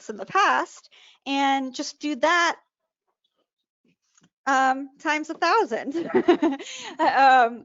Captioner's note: laughs